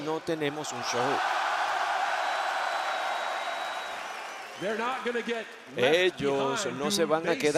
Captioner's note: applause